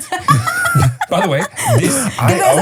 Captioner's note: laughing